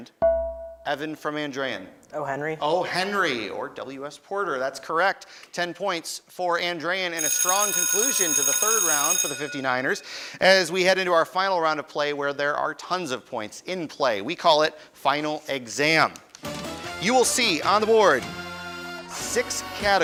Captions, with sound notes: (beeping) Evan from Andrean. >> O'Henry. >> O'Henry or WS Porter, that's correct. 10 points for Andrean and a strong conclusion to the third round for the 59ers. (bell ringing) As we head into our final round of play where there are tons of points in play. We call it Final Exam. You will see on the board six categories,